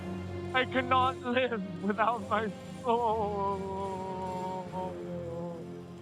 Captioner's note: sobs